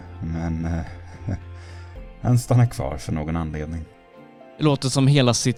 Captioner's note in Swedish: lättsamt skratt